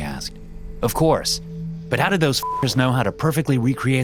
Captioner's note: beep